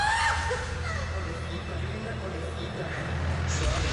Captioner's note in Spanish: Gritos